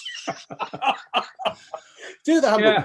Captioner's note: laughing